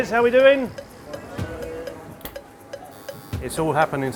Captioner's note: staff murmuring greeting; oven buzzes